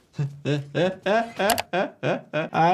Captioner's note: host laughing